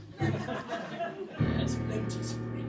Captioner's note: audience laughter